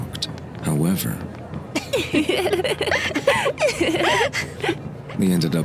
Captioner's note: Fenghua and Haruna laugh